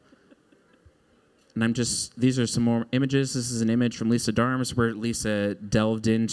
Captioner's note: chuckling